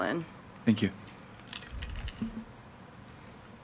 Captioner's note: keys jangles